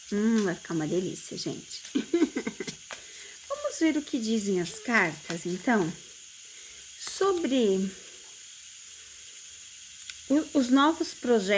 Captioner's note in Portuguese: risadas